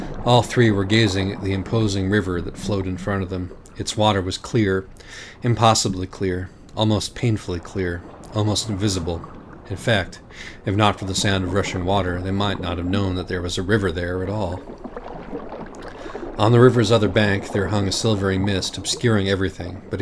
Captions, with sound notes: All three were gazing at the imposing river that flowed in front of them. Its water was clear, impossibly clear. Almost painfully clear. Almost invisible. In fact, if not for the sound of rushing water, they might not have known that there was a river there at all. [Water gushes somewhere in the distance.] On the river’s other bank, there hung a silvery mist, obscuring everything,